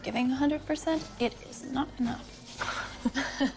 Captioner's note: chuckles